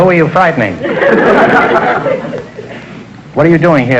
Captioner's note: audience laughter